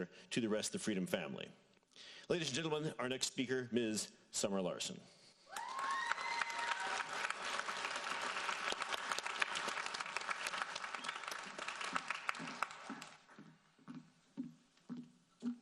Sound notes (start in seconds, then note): 5.5 audience cheering and applauding